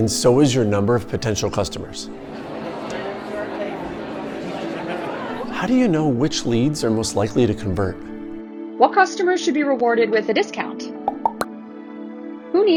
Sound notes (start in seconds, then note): 2.3 crowd banter; 11.0 popping sound